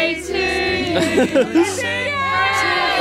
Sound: laughs

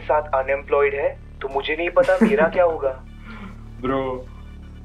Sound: Varun chuckles

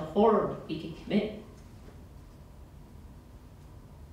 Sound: long pause

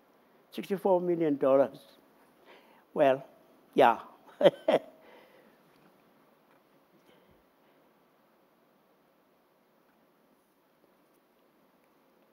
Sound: laughing

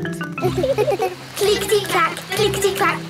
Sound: laughing

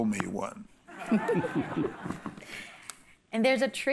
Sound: laughter

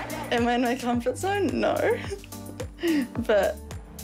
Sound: chuckles

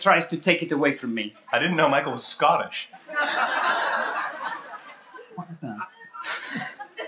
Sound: laughter

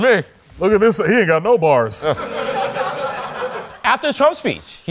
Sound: obama voice

